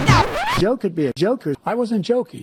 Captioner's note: record scratch